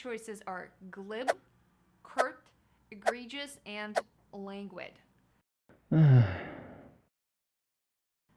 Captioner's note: sigh